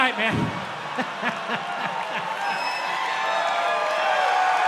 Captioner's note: crowd laughs and cheers